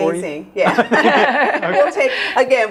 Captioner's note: laughs